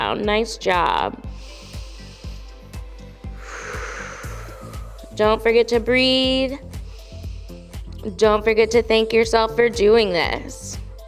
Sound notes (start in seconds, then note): 1.3 inhales; 3.4 exhales; 6.7 inhales